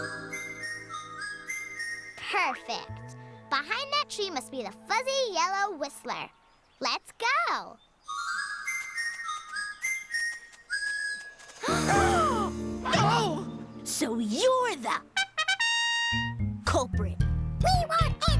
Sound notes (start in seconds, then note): 0.0 whistling; 8.0 whistling; 11.6 both gasp; 15.1 plays fanfare